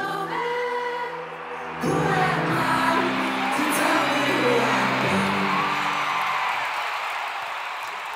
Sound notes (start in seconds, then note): 2.7 cheering